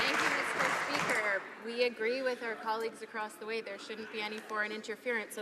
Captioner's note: applause